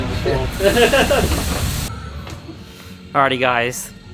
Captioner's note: laughing